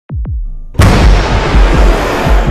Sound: heavy thud and door breaks

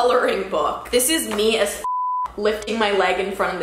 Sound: beep

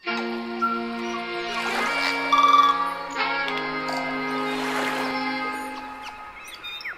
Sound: upbeat music; birds chirping; water splashing

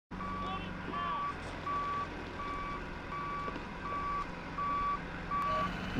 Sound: beeping

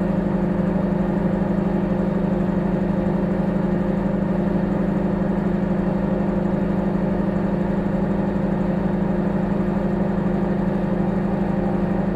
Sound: microwave humming

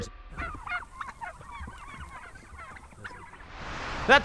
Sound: turkeys gobbling

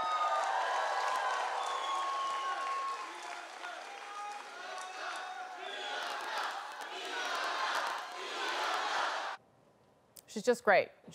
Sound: applause

